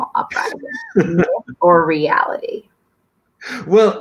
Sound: laughter

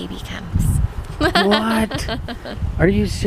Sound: laughing

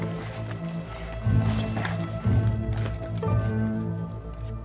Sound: objects rustling; intense dramatic music continues

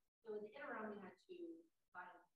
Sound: voice muffling

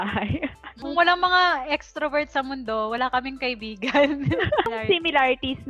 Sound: laughs; laughs

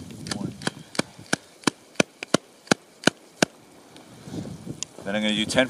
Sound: wrist tapping

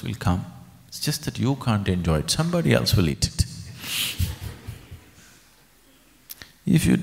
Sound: laughter

